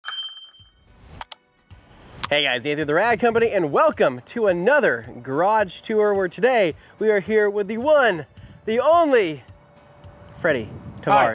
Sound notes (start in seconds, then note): 0.0 bell ringing